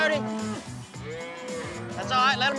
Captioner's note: mooing